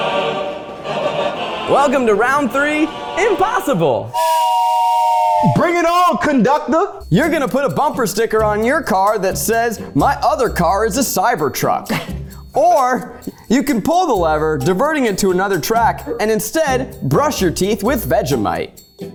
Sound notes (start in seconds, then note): 0.0 dramatic music; 4.1 whistle blows